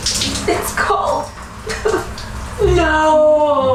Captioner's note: whimpering